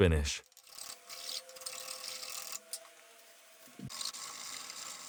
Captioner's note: rasp scraping